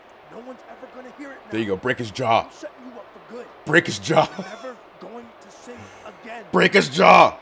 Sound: laugh

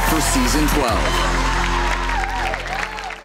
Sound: crowd cheers

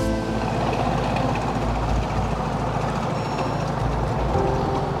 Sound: boat motor whirs

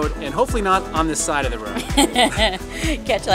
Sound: laughs

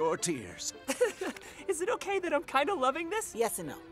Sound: Harold laughs

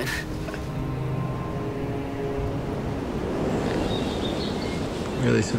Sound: rain pattering

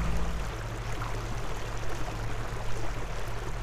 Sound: water sounds

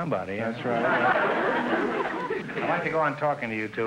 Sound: audience laughter

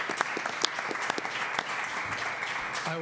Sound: applause

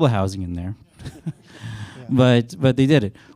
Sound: chuckles

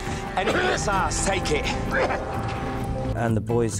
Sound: coughing

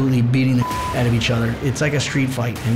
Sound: beep

